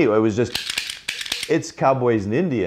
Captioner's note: loud click noise